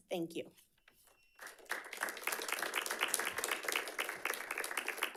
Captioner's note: audience clapping